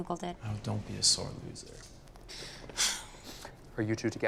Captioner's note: sighs